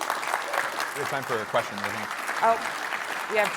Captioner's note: applause